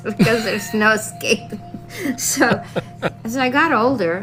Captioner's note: laugh